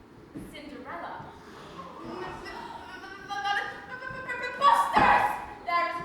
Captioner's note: all gasp